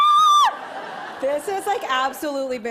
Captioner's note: screams; laughter